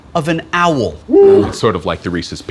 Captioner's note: hooting